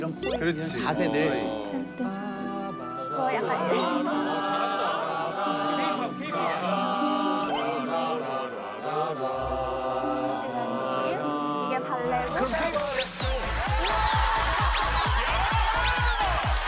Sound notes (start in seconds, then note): 14.6 laughter